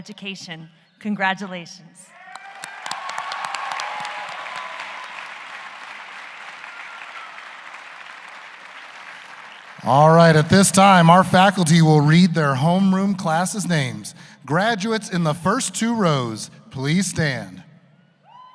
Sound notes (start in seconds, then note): 4.8 cheers and applause